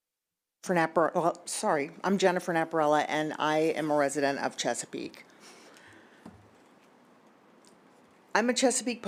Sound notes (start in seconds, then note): 5.0 silence